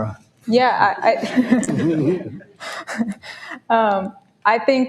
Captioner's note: audience laughs